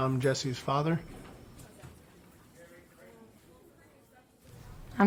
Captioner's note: chatter